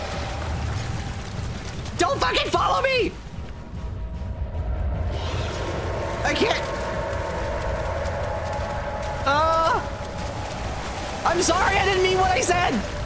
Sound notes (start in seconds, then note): 0.2 tense chase music; 5.1 Shadow and water monster roars a duet; 6.7 splashing from behind; 10.1 splashing gets louder